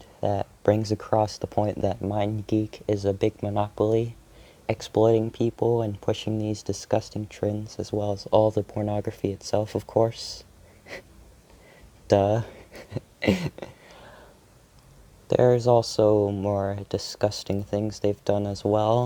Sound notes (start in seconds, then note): 12.4 laughs